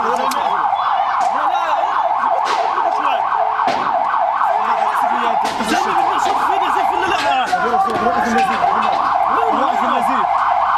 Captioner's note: medics speaking in Arabic